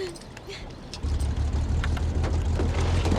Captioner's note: engine starting